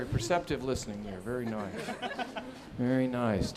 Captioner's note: scattered laughing